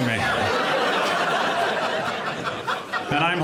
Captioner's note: audience laughing